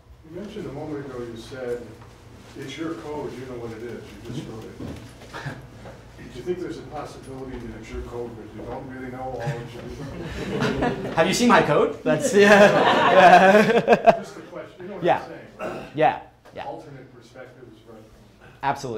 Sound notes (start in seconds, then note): 12.1 crowd laughs